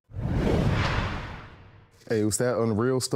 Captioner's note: logo whooshing